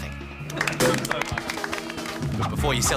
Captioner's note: applause